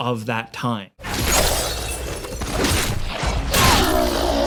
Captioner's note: weapon slashes; enemy groans